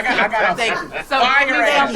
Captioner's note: group laughing